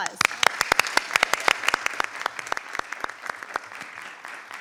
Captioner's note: audience applauding